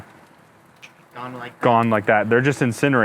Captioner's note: snaps fingers